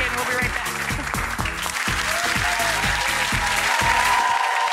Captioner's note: audience applauds